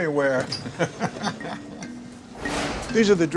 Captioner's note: Jerry laughing